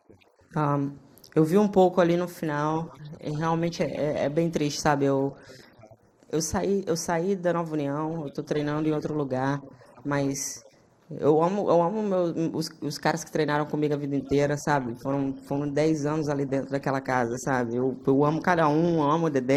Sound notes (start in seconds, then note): 4.6 speaking foreign language